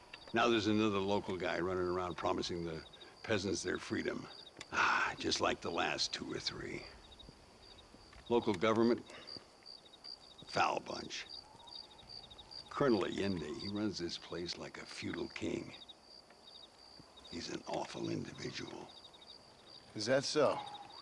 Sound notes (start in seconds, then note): 4.8 sigh